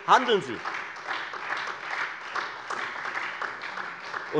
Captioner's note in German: Beifall Freie Demokraten und vereinzelt SPD